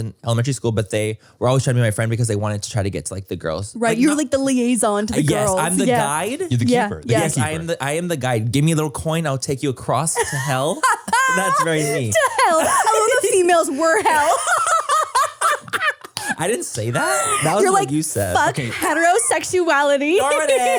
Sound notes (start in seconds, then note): 10.2 laughs; 14.8 laugh